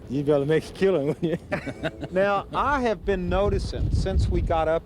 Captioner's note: laughs